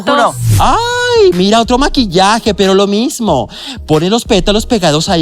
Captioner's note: gay squeal